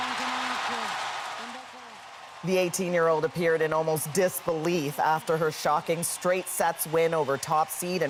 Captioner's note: cheers and Applause